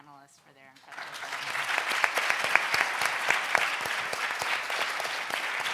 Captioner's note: applause drowns out speaker